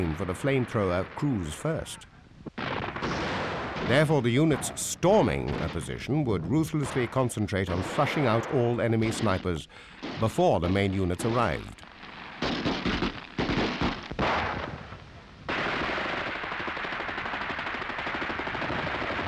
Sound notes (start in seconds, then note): 12.4 machine guns and rifles firing